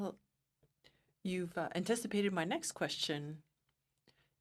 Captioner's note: speaking French